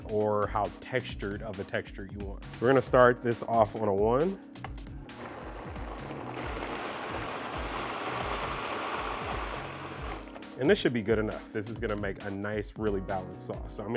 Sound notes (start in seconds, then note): 5.0 blender running